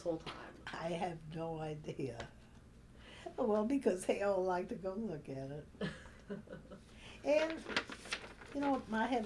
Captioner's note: laughs; laughter